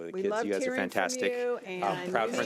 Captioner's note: overlapping chattering